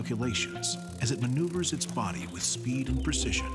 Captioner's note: wings buzzing